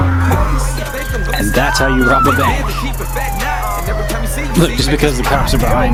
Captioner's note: police sirens blare